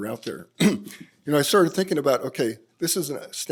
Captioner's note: clears throat